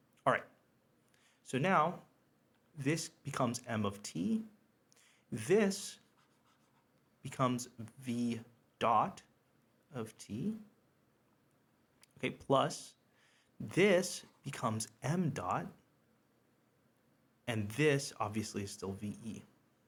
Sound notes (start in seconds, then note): 6.0 pen scribbles